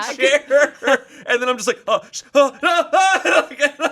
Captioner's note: laughs